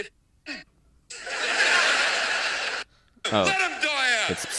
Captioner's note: television audience laughs